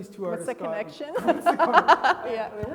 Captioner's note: laughing